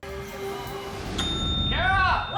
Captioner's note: bell ringing